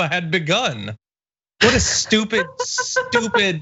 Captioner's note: laugh